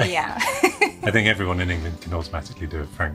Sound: laughs

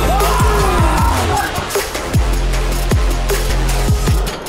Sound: loud cheering

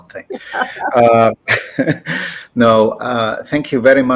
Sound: laughter

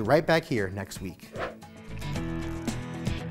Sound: whooshing graphic; lively music

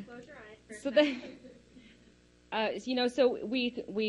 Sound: laughs

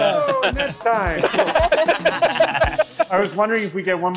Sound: laughing

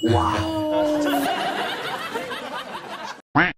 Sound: laughing

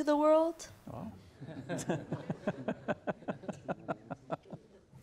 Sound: laughing

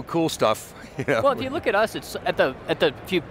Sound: laughs

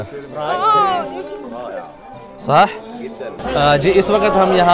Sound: Arabic

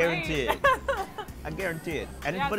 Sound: laughs

